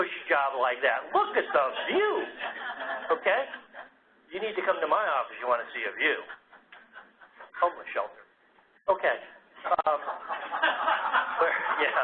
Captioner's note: laugh